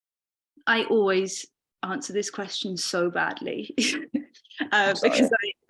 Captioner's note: both chuckling